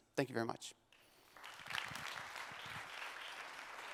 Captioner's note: applause